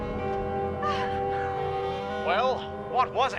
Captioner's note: sobs